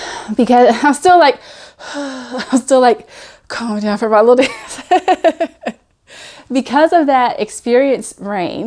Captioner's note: breathes